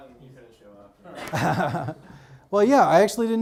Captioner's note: laughs